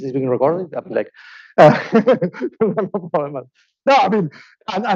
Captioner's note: laughing